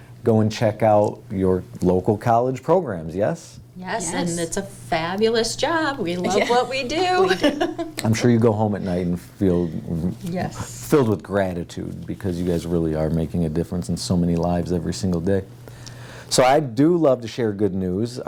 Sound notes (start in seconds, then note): 6.1 laughs